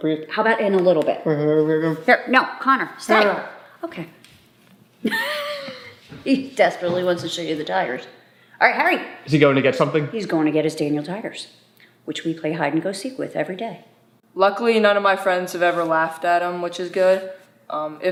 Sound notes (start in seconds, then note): 5.0 laughing